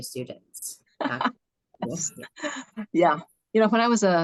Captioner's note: chuckles